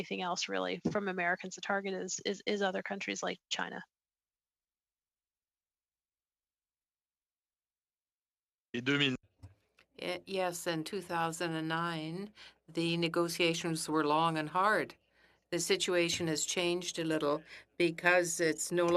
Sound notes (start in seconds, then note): 12.1 speaking French